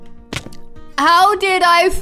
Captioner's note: Amy Lee thuds